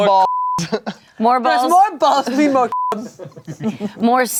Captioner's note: beep